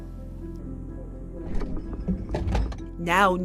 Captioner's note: refrigerator door opening